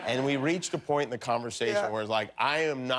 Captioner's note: laughter